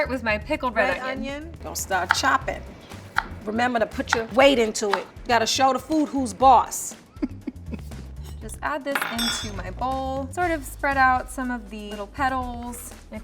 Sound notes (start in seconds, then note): 7.1 laughs